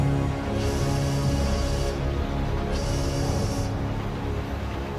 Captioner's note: <i> train whistle blowing</i>